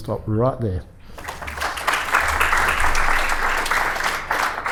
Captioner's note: applause